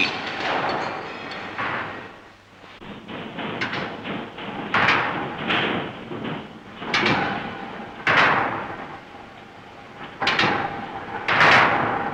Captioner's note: metallic noises